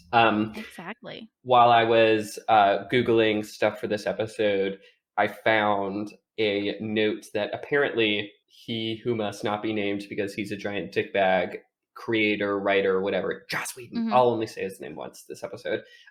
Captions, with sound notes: Um, while I was, uh, Googling stuff for this episode, I found a note that, apparently, He Who Must Not Be Named because he's a giant dick bag, creator, writer, whatever, [whispers] Joss Whedon. I'll only say his name once this episode.